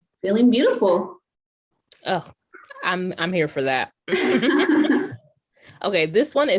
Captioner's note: laughter